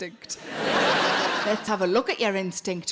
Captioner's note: crowd laughing